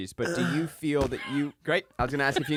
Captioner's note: moans